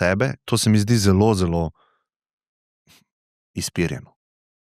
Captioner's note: gasp